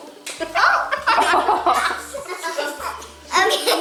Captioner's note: family laughing